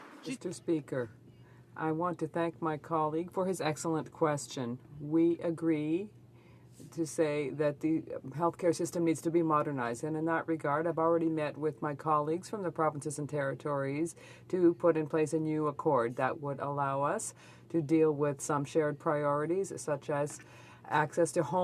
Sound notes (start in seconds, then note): 3.2 speaking French